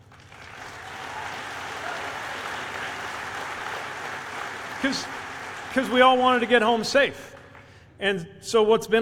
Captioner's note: applause